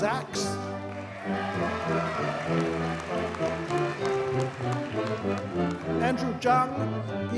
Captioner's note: audience cheers and applauds